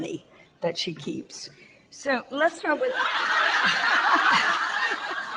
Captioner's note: audience laughter